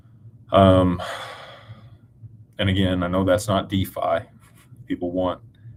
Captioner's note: sighs